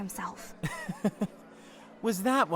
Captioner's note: laughs